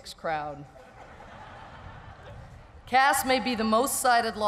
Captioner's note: laughter